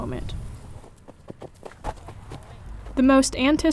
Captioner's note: footsteps thumping